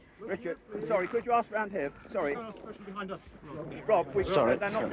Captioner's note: photographers chattering